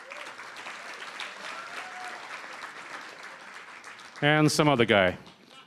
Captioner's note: applause